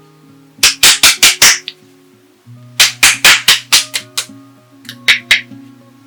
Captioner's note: smack